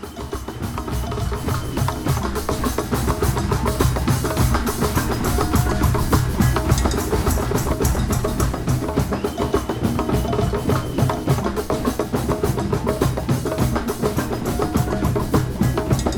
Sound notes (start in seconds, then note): 0.1 drums playing; 2.1 crowd cheering, whistling, exclaiming